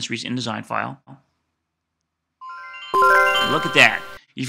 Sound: computer chimes

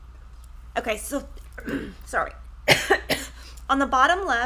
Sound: coughing

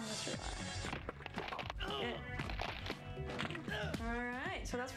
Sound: magrunti bones crunching

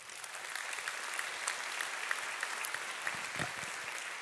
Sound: audience applauding

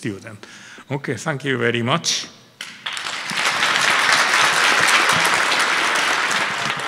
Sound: audience applauding

